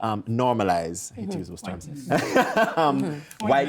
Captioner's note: laughing